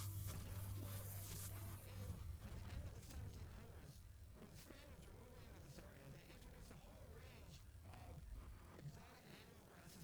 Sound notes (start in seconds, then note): none